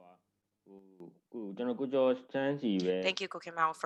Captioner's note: speaking burmese